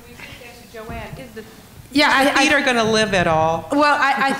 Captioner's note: laughter